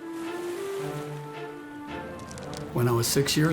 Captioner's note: waves lapping; gentle music